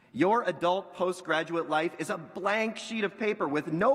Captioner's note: none